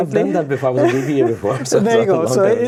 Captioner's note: laughing